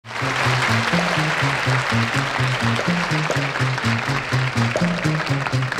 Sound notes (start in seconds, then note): 0.0 audience applauding